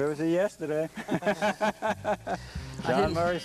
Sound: laughter

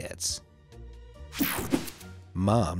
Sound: swishing slides

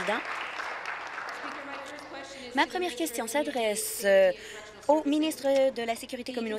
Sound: applause

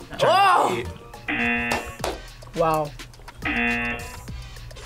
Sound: buzzer

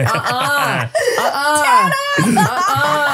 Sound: laughing

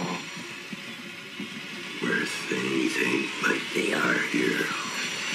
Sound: distorted

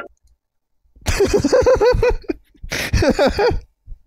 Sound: laughter

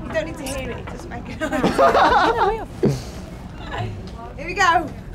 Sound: laughs

